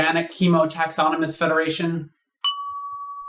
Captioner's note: ding!